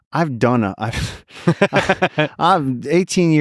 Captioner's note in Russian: Лекс смеётся